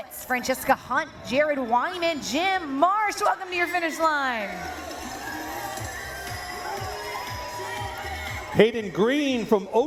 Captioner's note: cheering